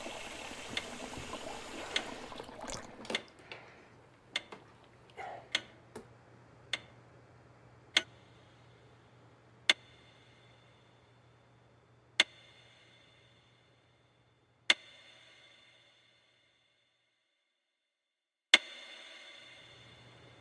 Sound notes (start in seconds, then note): 2.3 clock ticking